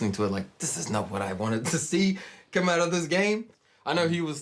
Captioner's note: chuckles